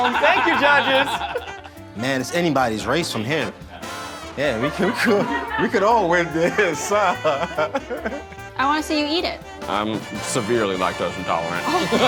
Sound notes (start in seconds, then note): 1.7 judges laughing; 7.7 laughs